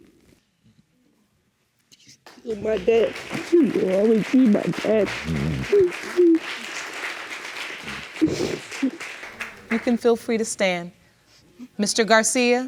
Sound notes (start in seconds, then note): 5.1 sobbing; 7.5 sniffles